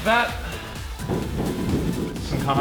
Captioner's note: tapping